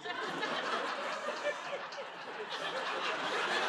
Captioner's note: laughter